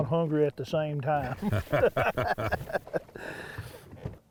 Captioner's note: laughing